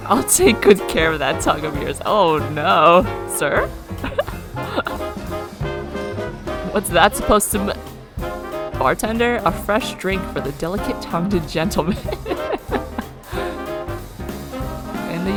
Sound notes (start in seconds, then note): 4.3 laughs; 10.9 laughs